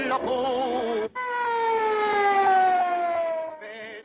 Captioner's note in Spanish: Sirena policial